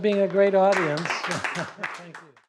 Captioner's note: applause